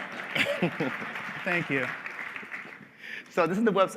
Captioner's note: applause